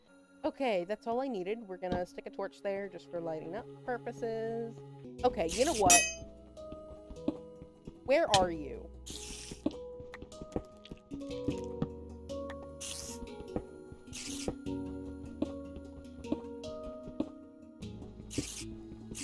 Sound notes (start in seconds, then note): 5.6 spider hisses; 9.1 spiders hiss and walk around